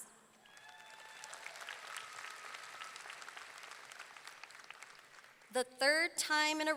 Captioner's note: audience clapping; audience cheering